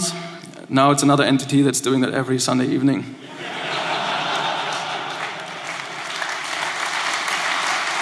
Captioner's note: laughter